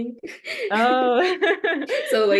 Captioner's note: laughter